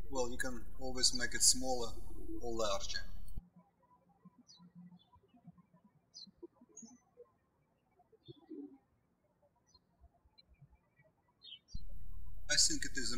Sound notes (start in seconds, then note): 4.3 birds chirping